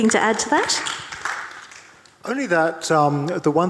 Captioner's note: audience clapping